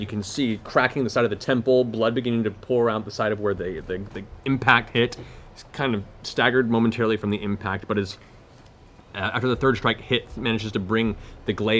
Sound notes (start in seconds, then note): none